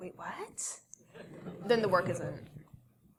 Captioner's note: laugh